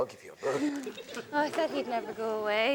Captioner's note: audience laughs